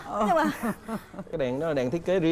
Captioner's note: laughter